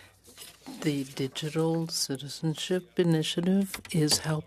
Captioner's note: speaking French